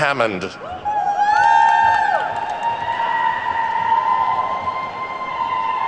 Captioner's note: attendees whooping and clapping